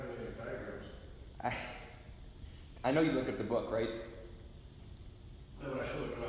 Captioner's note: laughs